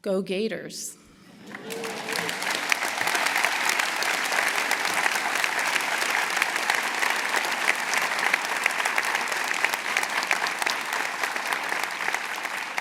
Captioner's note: applause